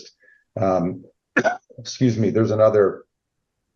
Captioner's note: coughs